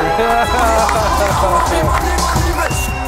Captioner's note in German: Jubel